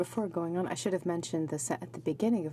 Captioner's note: speaking French